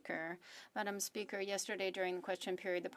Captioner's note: speaking french